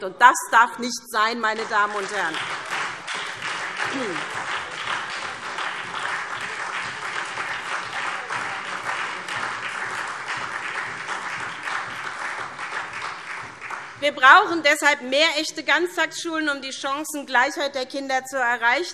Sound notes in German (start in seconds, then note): 3.5 Beifall SPD, vereinzelt Freie Demokraten und DIE LINKE